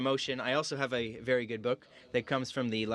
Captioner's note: speaking in french